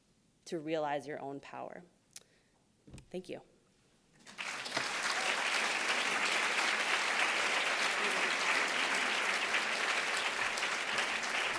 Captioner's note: applauds